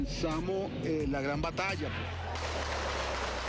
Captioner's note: gunfire